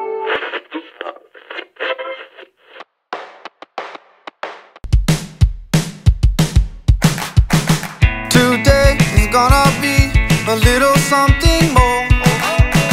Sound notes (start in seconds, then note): 0.2 radio tuning; 3.8 upbeat music